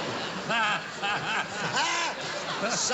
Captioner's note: laughter